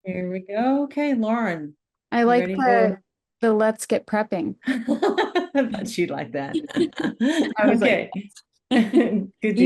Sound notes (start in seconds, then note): 6.5 laughs